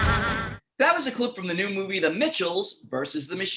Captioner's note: maniacal laughter